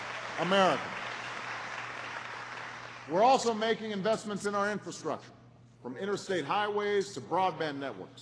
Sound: applause

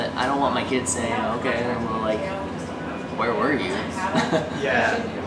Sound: chuckles

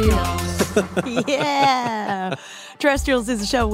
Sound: chuckling quietly as he finishes the song; laughingly, as cracks up

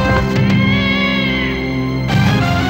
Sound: cat yowling

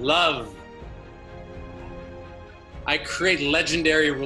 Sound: audience responding

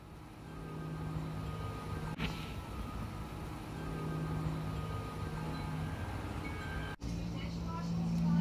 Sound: windchimes, cars, lawnmowers, birdsong

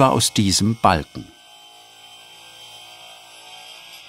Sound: whirring

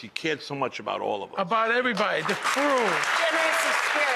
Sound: audience clapping

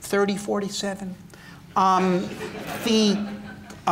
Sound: laughter

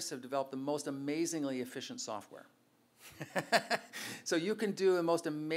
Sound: laughs

